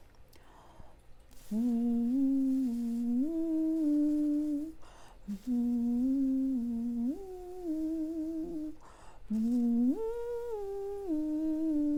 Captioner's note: humming the tune